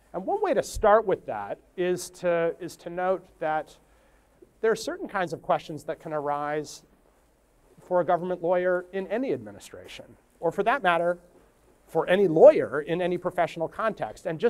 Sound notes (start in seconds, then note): none